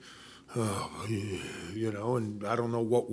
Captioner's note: sighs